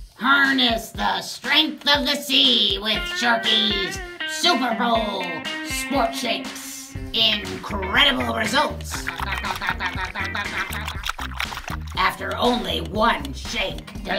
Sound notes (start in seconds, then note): 8.4 guzzles